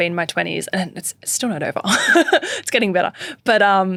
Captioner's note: laughing